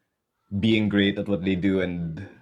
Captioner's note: none